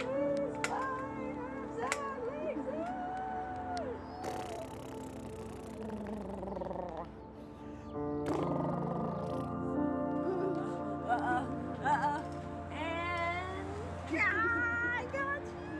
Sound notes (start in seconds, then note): 4.2 lips buzzing; 4.3 hands patting; 10.1 giggling